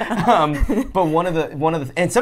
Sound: laughs

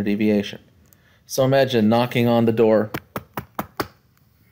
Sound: knock, knock, knock, knock, knock

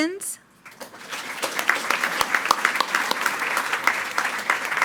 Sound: attendees clapping

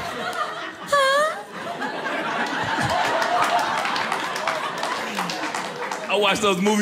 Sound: audience laughing

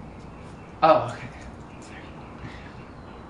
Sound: whispers

